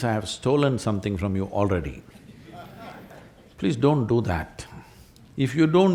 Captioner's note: laughter